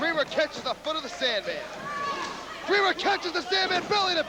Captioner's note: crowd cheering